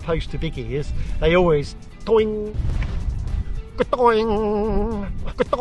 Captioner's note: imitates wing twanging